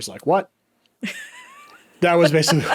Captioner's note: laughing